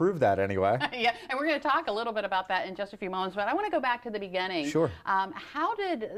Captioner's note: laughter